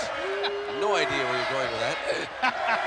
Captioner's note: laughs